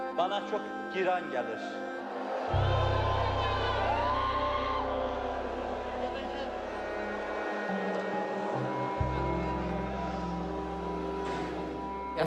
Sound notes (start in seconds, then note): 1.9 crowd boos; 7.8 somber music